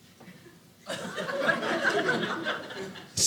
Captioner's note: audience laughing